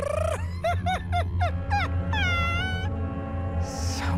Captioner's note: laughs